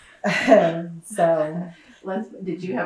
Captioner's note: laughter